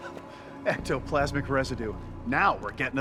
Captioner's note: laughs